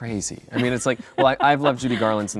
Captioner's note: chuckling